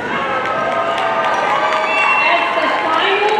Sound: audience cheering and applauding

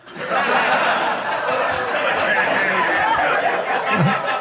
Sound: audience laughing

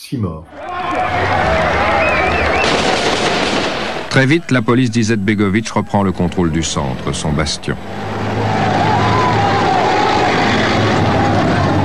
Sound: applause

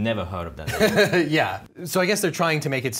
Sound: laughing

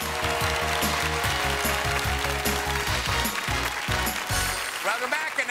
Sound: cheers and applause

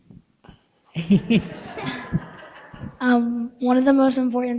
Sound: people laughing

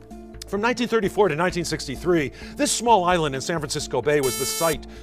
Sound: buzzer

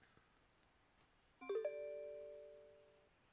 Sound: text Alert

